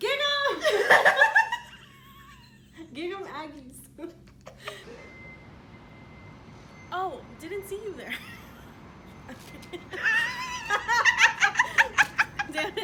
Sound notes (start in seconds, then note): 0.6 laughter; 4.2 laughs; 9.3 laughter